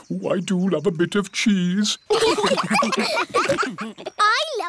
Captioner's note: laughter